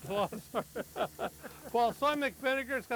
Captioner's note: men laughing